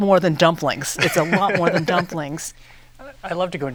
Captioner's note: laughs